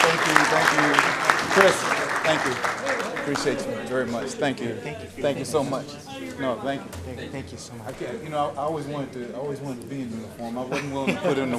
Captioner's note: applause